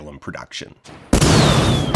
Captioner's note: blast